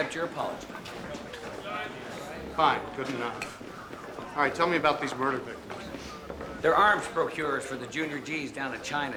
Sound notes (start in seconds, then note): 5.5 chuckling